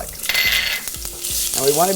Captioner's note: oil sizzling; utensil cluttering